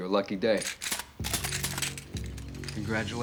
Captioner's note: guns cocking